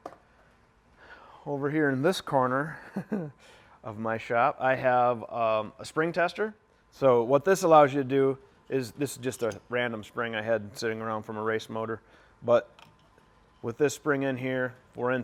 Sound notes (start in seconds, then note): 2.7 chuckles